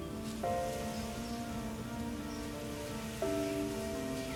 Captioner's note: wind rustling